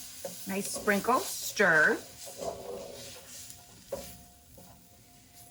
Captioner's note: pan sizzling